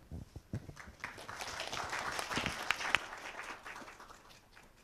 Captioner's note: applause